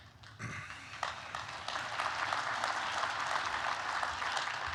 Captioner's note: applause